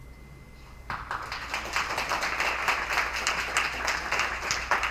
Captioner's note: attendees applauding